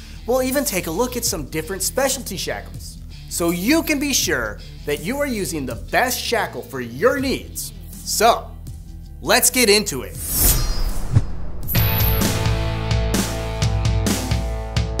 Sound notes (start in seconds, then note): 10.2 animation swishing; 11.6 upbeat rock music